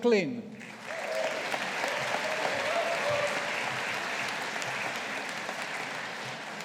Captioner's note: audience applauding